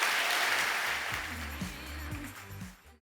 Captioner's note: audience applause